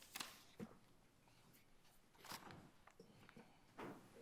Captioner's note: papers rustling